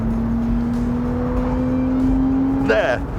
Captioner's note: engine blares